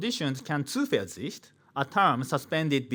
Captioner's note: man speaking in foreign language